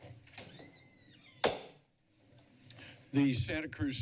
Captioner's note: background chatter; gavel tap